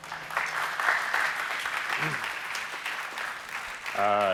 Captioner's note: applause